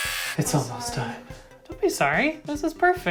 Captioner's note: quietly